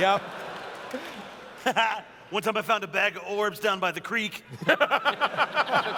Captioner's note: laughs; laughter